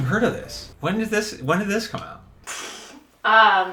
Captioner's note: none